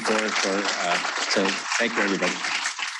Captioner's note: audience applauding